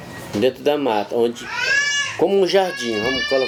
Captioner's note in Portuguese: criança gritando